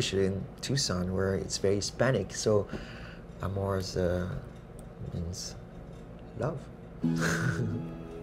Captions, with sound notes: especially in Tucson where it's very Hispanic. So Amor is, it means love! (laughs)